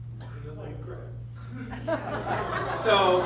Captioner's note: laughter